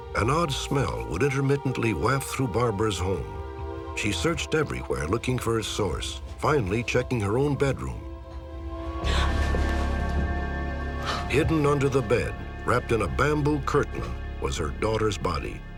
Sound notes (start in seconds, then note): 8.9 gasps